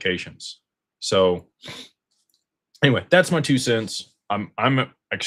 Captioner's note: snorts